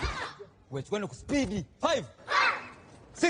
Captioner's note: group grunts